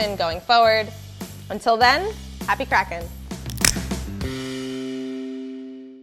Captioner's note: cracks nut